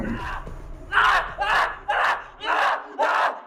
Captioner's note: Greg screaming